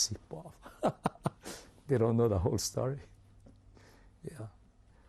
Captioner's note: laughs